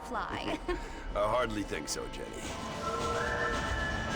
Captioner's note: laugh